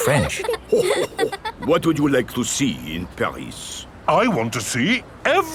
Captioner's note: chuckles